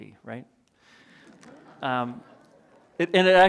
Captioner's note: audience chuckling